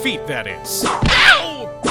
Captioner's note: whip crack!